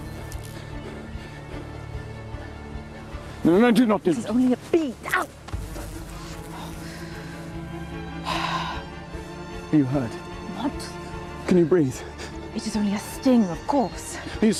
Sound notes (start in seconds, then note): 0.0 bee buzzes; 0.3 bee wings flap; 1.2 Anthony panting; 7.1 bee buzzes; 8.2 Kate sighs